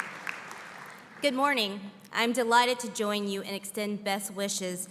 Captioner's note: applause